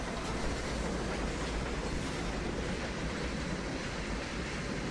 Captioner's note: train passing